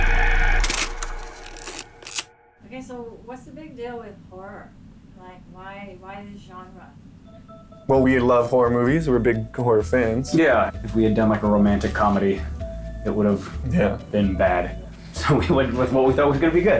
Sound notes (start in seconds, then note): 0.4 film whirring